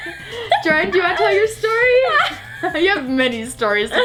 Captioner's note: laughs